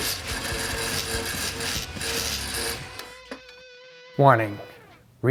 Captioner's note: tool whirring